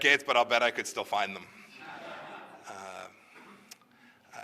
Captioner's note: laughter